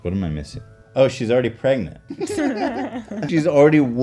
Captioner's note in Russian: смеются